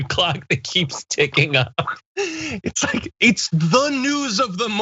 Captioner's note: laugh